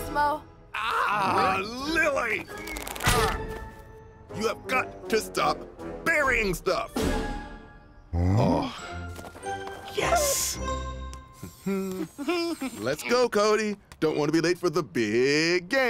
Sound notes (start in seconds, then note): 11.2 humming